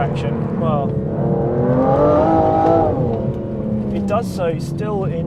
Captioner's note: car humming